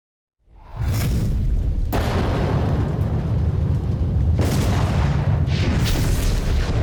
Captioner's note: thunder cracking over rumbling ambiance